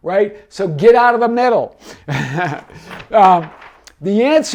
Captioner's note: laughs